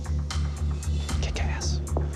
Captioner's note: whispering